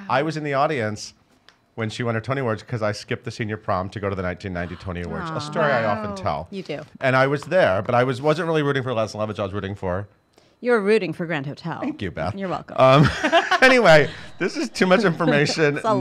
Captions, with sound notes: I was in the audience when she won her Tony Awards, 'cause I skipped the senior prom to go to the 1990 Tony Awards, a story I often tell. - You do. - And I was there, but I wasn't really rooting for "Lettice and Lovage" I was rooting for-- - You were rooting for "Grand Hotel." - Thank you, Beth. - You're welcome. (laughing) - Anyway, this is too much information,